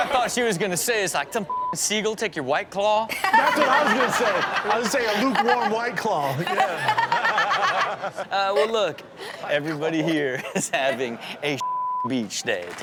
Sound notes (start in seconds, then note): 6.5 laughs